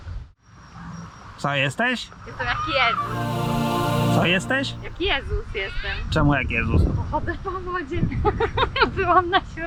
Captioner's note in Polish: śmiech